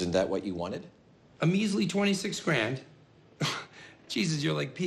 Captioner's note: scoffs